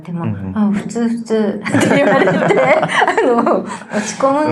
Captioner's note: laughs